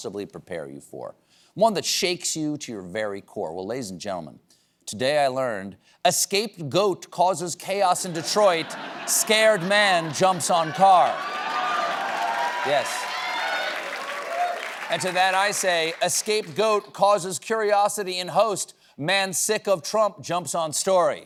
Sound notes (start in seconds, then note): 11.4 cheers and applause